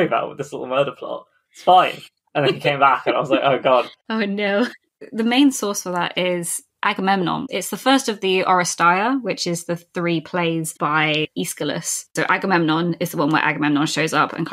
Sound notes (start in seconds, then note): 2.3 laughing